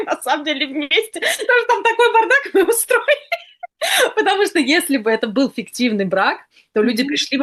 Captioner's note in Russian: смех